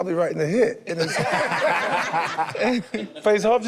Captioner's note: group laughs